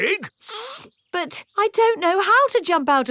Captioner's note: sniffs